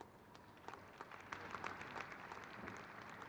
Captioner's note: crowd claps